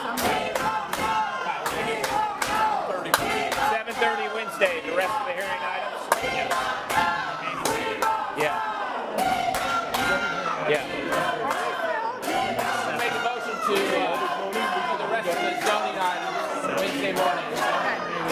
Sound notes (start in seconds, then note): 1.4 audience screaming we won't go